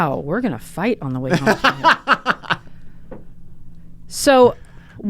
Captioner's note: laughs